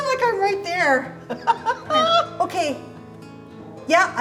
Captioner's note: laughing